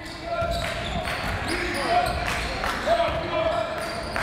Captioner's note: crowd